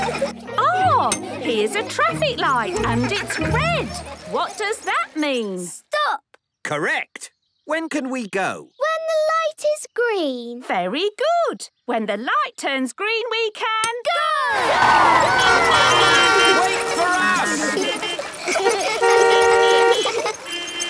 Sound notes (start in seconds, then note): 15.0 beeping; 16.1 laughter; 18.3 beeping; 18.3 laughter